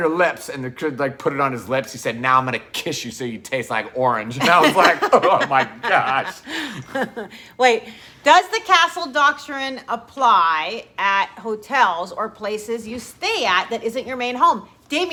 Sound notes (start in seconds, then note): 4.4 both laugh; 4.4 laughing